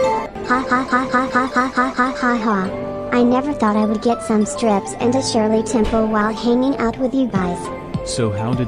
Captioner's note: laughs in joy